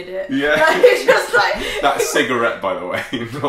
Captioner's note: laughter